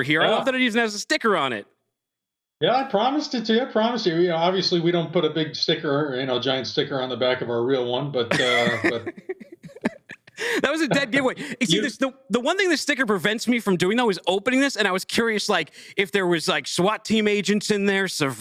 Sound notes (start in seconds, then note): 8.3 laughs